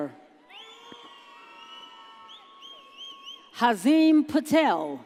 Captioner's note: audience cheers